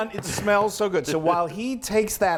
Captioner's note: laugh